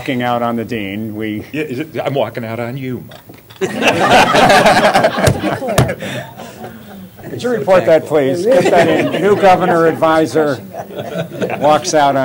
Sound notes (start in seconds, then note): 3.6 laughter